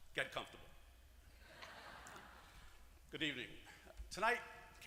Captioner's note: laugh